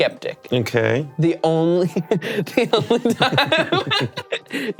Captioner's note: laughs